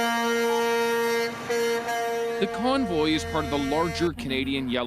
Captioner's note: honking